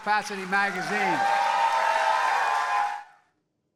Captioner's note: cheering and applause